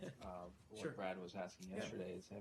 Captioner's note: laughter